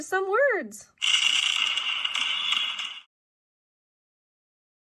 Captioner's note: fireworks bang